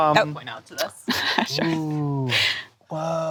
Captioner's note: laughs